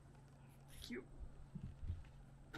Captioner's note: strained